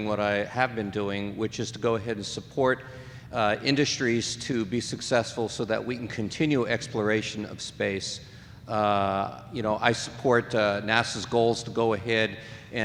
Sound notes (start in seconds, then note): none